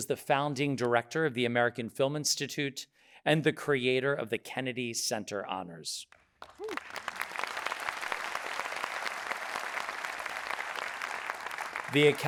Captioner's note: audience applauding